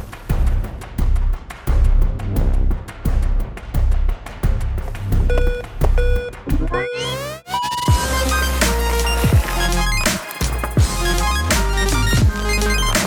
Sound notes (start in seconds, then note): 5.3 beeping; 9.3 electronic music